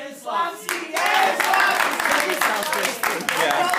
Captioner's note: applause